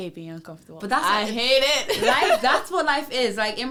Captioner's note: laughs